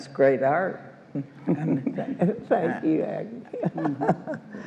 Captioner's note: all laugh